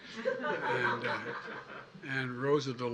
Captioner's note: laughter